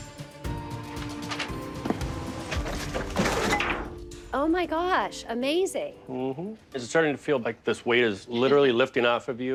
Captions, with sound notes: (light suspense music) (objects clattering) - It has come a long way, like, oh my gosh, amazing. - Mm-hmm. Is it starting to feel like this weight is literally lifting off of you?